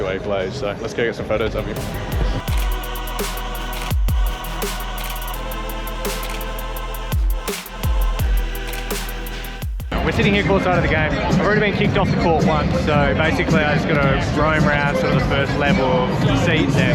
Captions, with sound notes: So, let's go get some photos of him. (trap music) (camera clicking) We're sitting here, court side of the game. I've already been kicked off the court once. So basically, I just gotta roam round to sort of the first level of seats there.